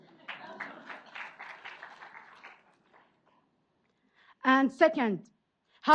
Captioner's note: audience applauds